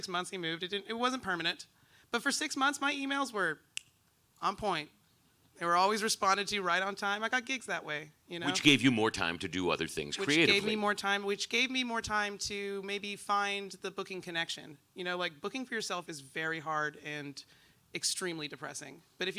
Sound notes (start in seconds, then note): 3.7 snaps